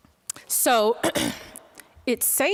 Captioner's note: clearing throat